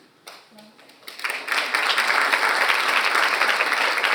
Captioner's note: audience applauds